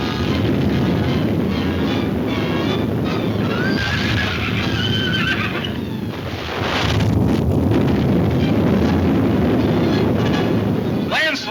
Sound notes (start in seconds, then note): 3.5 horse whinnying; 5.9 crashing